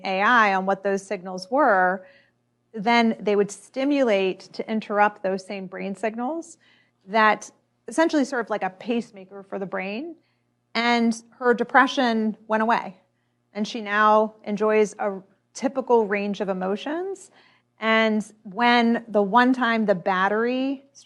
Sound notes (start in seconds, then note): none